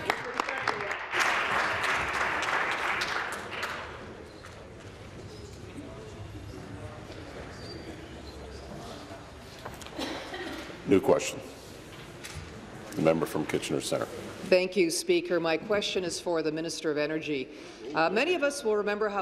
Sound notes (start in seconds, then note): 4.8 applause